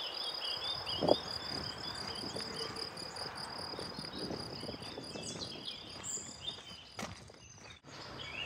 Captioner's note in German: Vögel zwitschern